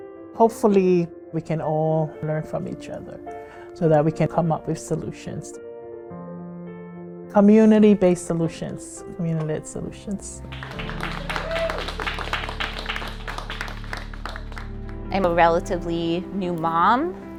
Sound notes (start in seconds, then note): 10.4 people applauding